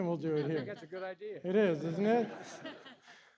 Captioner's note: laughter